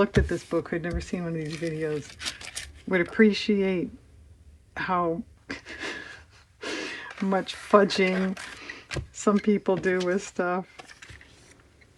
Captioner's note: laughs